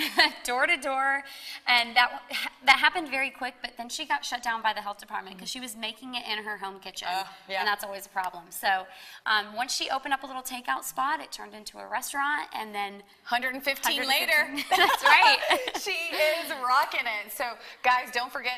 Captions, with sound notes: - Door to door and that happened very quick, but then she got shut down by the health department. She was making it in her home kitchen and that is always a problem. So, once she opened up a little take-out spot, it turned into a restaurant and then, - 115 later - That's right. (laughing) - She is rocking it. So, guys, don't forget